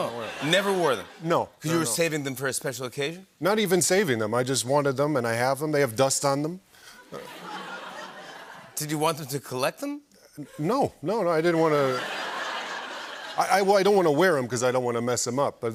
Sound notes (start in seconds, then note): 7.0 laughter; 11.6 laughter